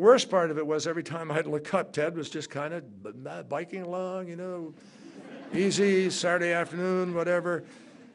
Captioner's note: laughter